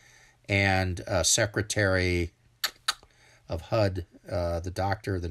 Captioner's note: mouth clicking